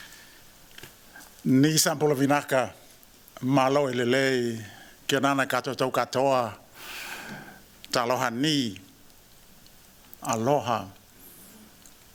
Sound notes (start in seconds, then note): 1.4 non-english speech